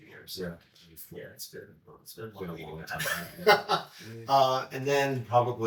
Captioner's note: laughs